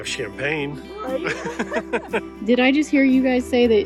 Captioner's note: laughing